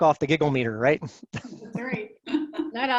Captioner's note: giggles